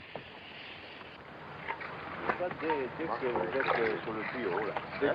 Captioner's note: speaking french